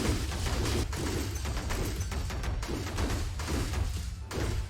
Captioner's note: robots punching